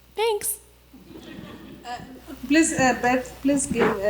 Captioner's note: faint audience laughter